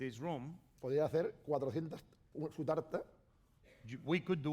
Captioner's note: speaking spanish